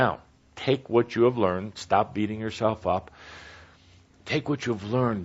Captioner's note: none